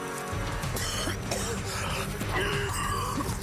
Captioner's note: coughing; gagging